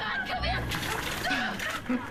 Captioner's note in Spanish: Ambos gruñendo